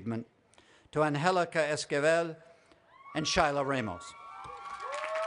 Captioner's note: applause